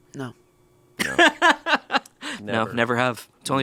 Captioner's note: laughs